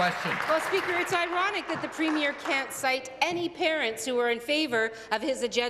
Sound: applause

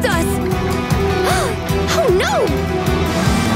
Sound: gasps

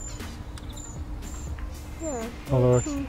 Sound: chirping

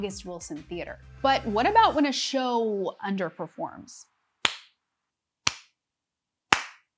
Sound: claps

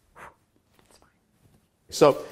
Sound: whispers

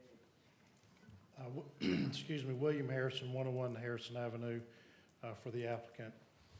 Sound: cough

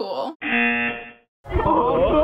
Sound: buzzer rings

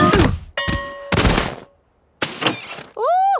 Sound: exclaiming and grunting; bell ringing

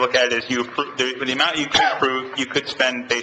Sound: coughs

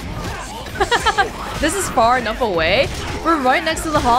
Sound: chuckles

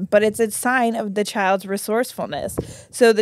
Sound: mic thuds

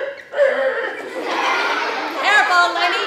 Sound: laughter

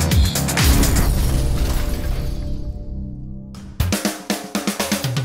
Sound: upbeat electronic music; music trails off, glass crashing sound; outro music

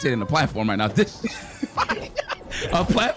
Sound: both Laughing

